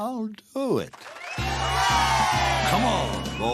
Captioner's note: cheers